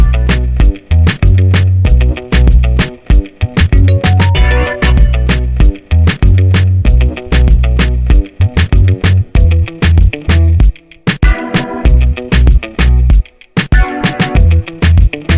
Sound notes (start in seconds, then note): none